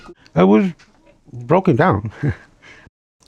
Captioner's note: laughs